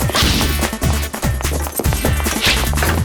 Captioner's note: grunt